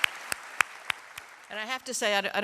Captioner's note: applause